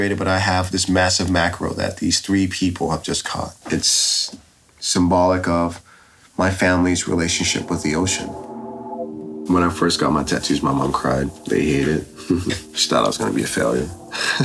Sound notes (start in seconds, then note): 12.5 laughs